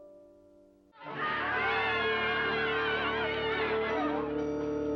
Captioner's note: shouting, Yelling